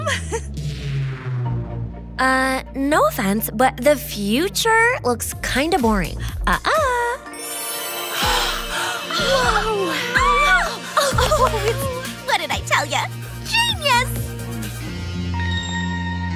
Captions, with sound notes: - No offense, but the future looks kind of boring. - Ah ah. (mermaids exclaiming) - What did I tell you, genius!